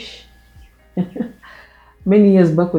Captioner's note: laughing